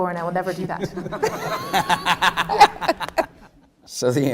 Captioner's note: laughing